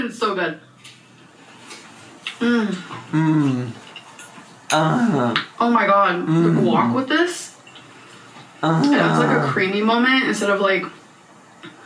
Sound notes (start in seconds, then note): 3.2 moaning